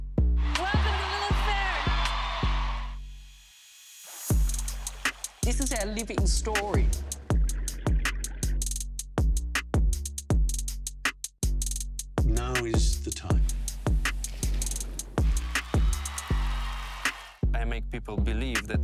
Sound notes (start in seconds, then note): 6.7 cheers and Applause